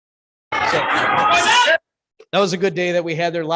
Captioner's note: kids chattering